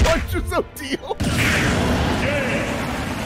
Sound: smash

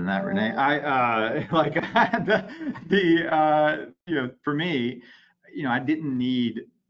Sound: chuckling

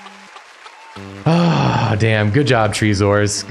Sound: sigh

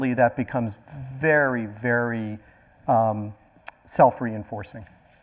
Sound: none

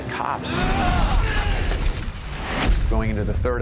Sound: screams

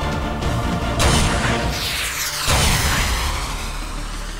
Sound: sound effects playing

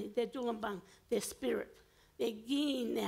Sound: foreign language

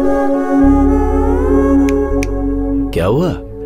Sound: snapping fingers

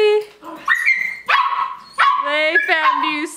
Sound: dogs barking

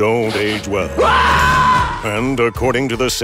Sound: screaming

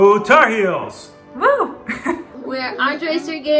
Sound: laughs

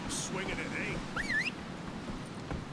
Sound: whistle

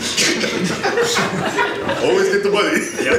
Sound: audience laughs

